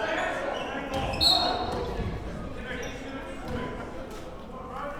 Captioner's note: whistle blows